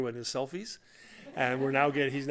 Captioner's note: laughter